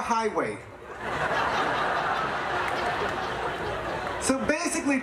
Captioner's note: audience laughing